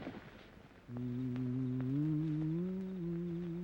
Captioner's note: humming